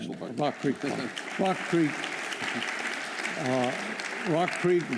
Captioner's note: applause